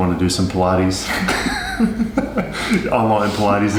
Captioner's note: laughs